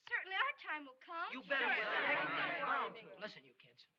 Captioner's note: clamor of voices